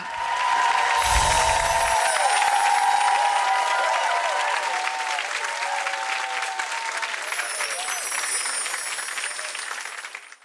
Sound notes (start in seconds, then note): 0.2 audience applause; 7.2 chimes